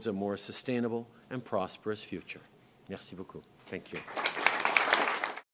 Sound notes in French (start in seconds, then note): 3.9 Applaudissements